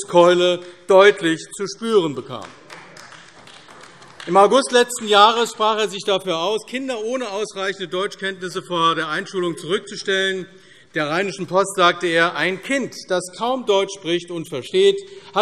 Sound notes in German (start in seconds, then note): 2.2 Beifall AfD